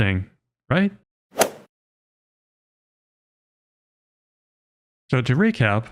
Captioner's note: golf ball hit sound